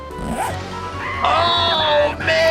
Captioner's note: Handy screaming